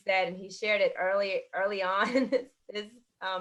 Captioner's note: laughter